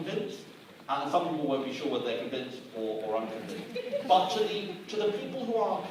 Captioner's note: some laughter in audience